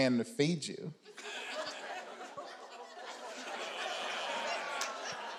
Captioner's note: audience groans